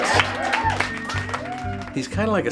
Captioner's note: applause